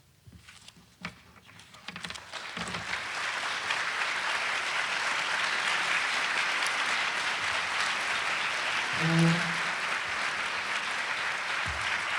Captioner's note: applause